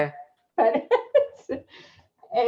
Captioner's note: laughs